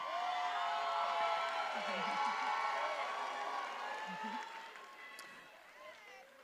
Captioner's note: attendees applauding and cheering